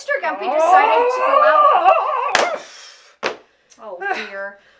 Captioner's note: yells